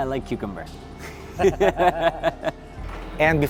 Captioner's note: laughing